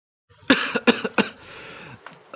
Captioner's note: cough cough